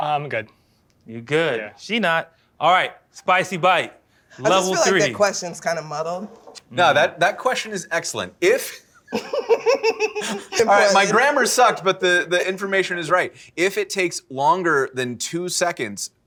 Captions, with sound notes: I'm good. You're good. She not. All right, Spicy Bite, level three. I just feel like that question's kind of muddled. No, that question is excellent. If-- [laughter] My grammar sucked, but the information is right. If it takes longer than 2 seconds--